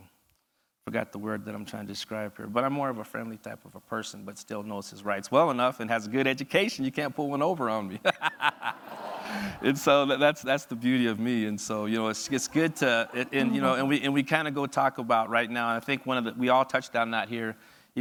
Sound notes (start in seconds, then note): 8.0 audience laughs; 8.0 laughs